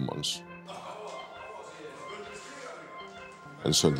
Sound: people chattering

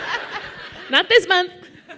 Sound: laughter

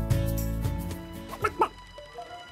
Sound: chicken cluck

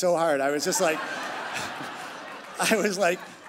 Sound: crowd laughing

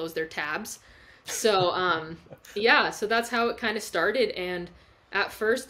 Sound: chuckles

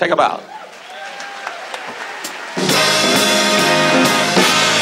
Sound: audience cheers; dramatic upbeat music

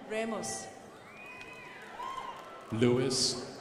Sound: crowd applauding

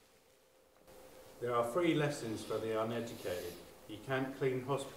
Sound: male Voice

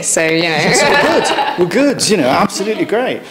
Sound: laughs

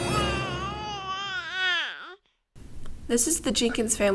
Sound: dramatic music; baby cries

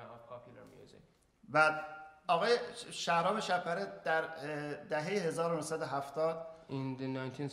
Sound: speaking in farsi

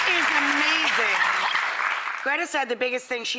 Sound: laughing

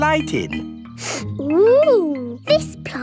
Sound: sniffs

